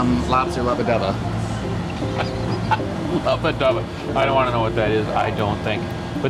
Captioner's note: laughing